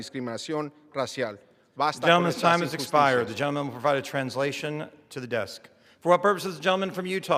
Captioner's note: speaking spanish